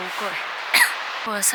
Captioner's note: cough